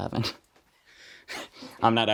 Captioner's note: laughs